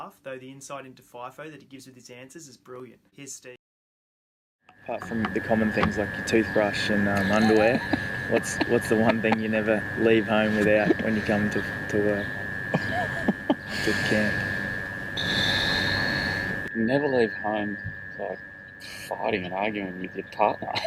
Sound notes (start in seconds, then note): 7.1 laughing; 12.7 laughing